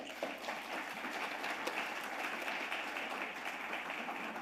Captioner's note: audience applauding